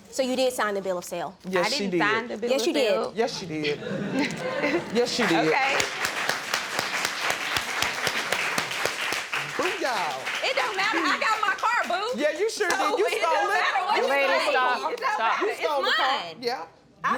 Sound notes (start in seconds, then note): 3.7 audience laughing; 6.2 audience clapping